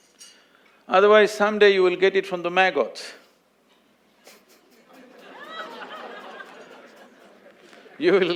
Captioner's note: laughter